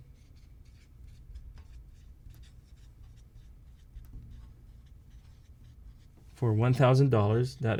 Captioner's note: writing